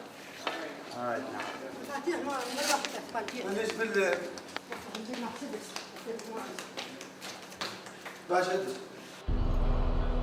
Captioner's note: woman speaking in Arabic